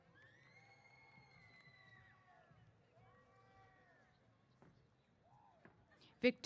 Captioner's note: cheers